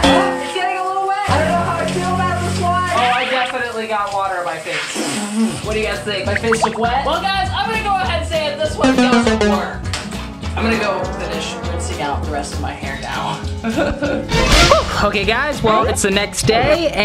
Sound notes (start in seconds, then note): 5.1 spitting; 10.1 buzzing; 13.6 laughing